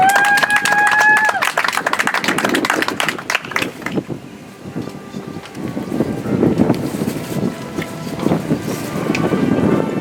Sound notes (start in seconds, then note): 3.2 audience applauds; 7.4 soft music